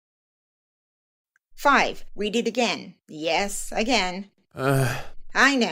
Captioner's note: annoyed man groans